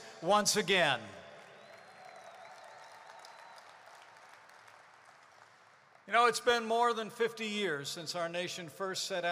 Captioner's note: applause